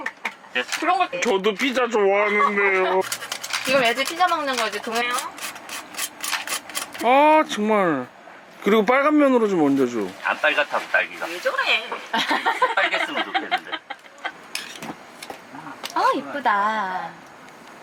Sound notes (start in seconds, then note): 11.9 laughs